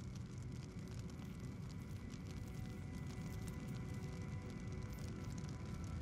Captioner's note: fire Crackling